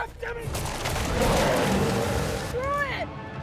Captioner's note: growls